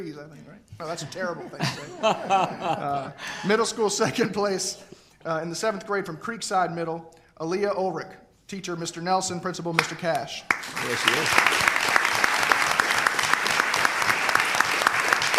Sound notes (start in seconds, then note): 1.0 laughter; 10.4 applause